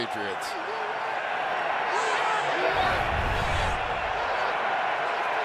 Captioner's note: cheering